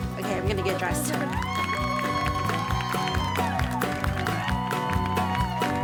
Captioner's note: upbeat music; audience applauding